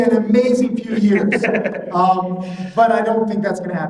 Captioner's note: laughing